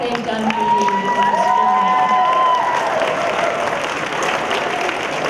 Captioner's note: applause